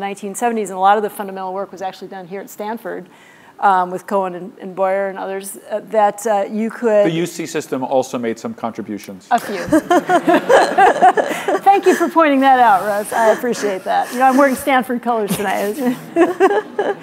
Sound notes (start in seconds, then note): 9.4 laughter